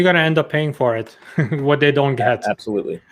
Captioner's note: laughs